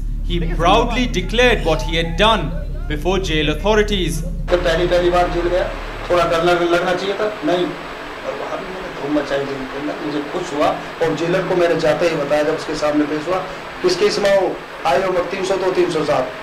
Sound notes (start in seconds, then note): 4.5 non-english speech